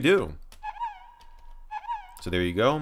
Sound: error sound

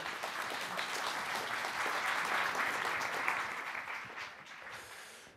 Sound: audience applauding

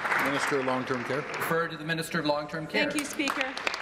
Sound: applause

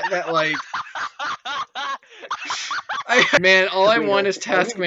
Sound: laughter

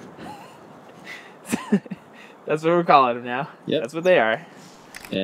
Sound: dry laughter

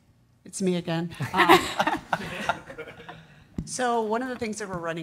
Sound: everyone laughs

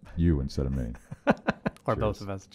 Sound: laughing

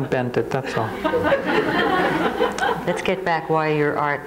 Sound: crowd laughs

